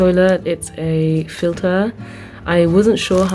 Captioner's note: vent